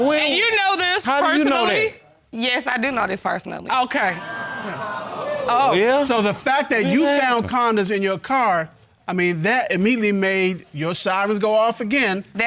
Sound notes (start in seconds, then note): 4.1 audience exclaiming